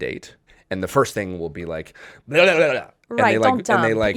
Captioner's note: babbling